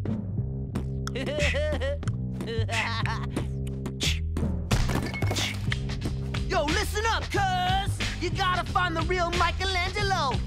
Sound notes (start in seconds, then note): 1.1 laughing